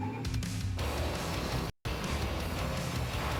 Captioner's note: tires squealing